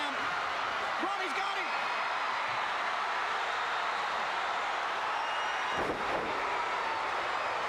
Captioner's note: crowd chattering